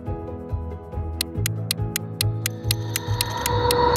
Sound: clock ticking; dramatic music

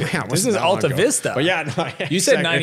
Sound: chuckles

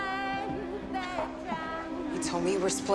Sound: scoffs

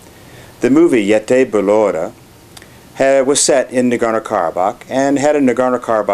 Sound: armenian

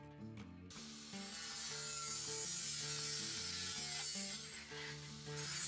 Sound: machines buzzing and whirring

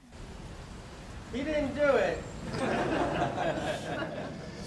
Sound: laughter

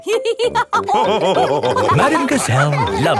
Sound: all laughing

